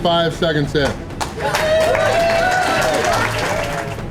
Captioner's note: crowd applause